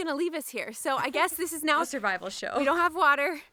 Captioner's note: giggles